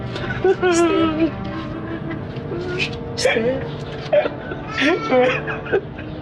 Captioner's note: sobbing